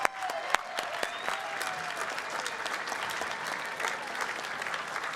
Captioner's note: applause and cheering